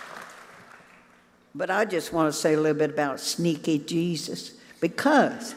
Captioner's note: cheers